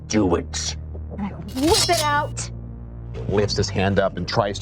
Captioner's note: blade clanking